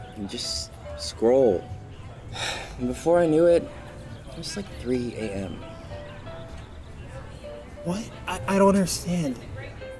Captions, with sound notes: And just... Scroll... *Sighs* And before I knew it. It was like 3 AM. What? I don't understand.